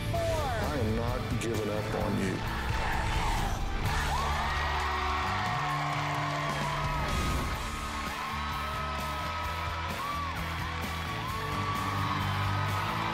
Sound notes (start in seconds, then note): 2.3 crowd chanting "dr. phil!"; 7.0 cheering and applause